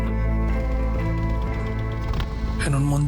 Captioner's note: fire crackling; narrator speaking Spanish